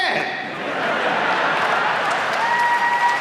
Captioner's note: audience laughs; audience applauds and cheers